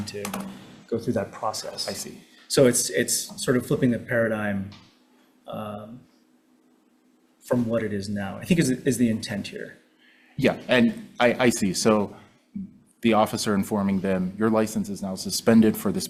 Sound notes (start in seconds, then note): none